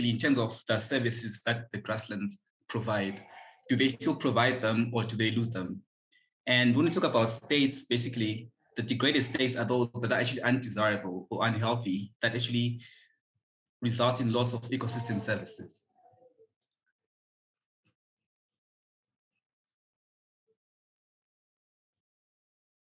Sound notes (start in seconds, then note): 18.2 pause